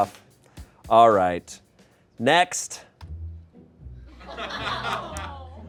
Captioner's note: laughter